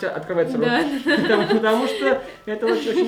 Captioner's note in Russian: смех